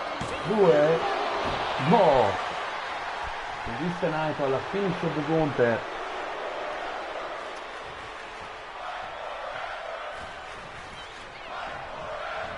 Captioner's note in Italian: Applauso